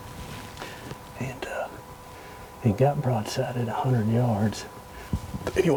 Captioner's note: whispering